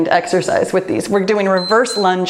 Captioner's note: timer beeps